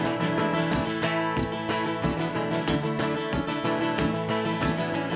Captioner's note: boot stomping